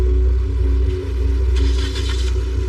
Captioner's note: engngine starts